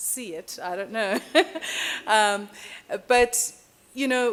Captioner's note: chuckling